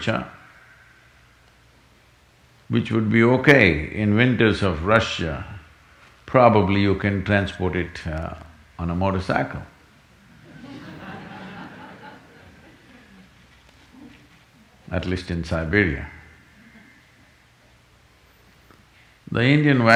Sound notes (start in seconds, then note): 10.3 laughter